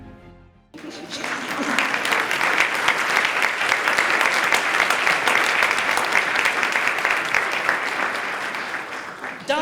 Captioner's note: applause